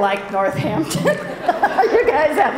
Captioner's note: laughs